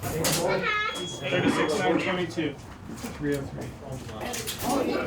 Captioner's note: electronic beeping